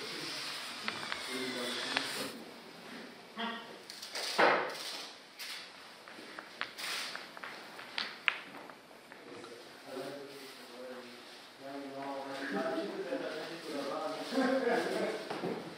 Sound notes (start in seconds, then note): 11.9 confusion of voices, laughter